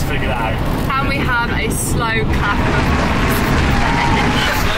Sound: laughing

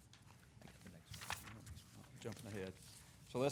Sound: papers rustling

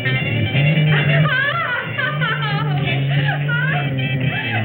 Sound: laughs

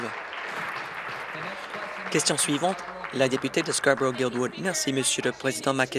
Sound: applause

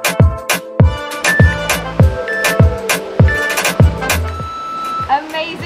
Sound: waves whooshing; timer beeping

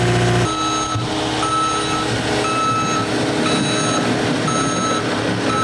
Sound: reverse signal beeping

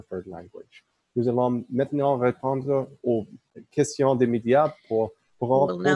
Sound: speaking in French

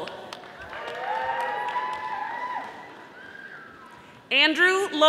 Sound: audience applauding

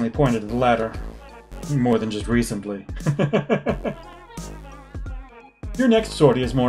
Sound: laughs

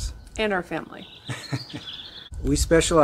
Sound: laughing

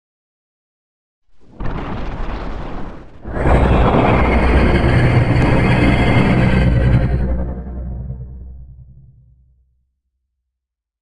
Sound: sound of monster

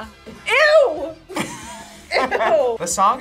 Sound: laughs

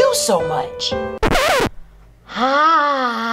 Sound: record scratching

